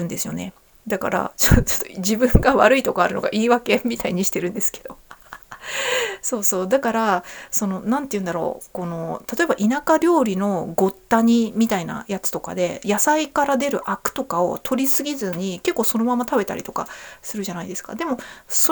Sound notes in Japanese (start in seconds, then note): 5.0 笑い; 5.5 息をのむ音